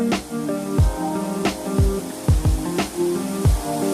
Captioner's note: mellow music; water falling